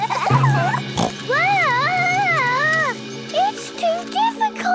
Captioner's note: children giggling; snorts